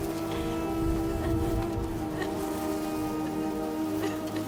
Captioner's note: crying